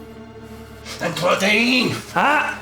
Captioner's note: Koch speaking German